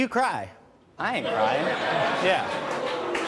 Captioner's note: audience laughing